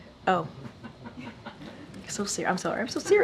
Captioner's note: laughter